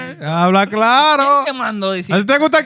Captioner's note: speaking In Foreign Language